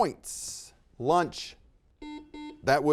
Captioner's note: buzzer beeps